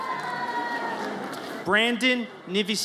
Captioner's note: audience cheers